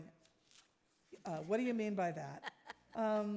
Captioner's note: laughing